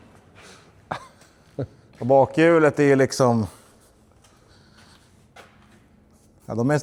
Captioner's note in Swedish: skratt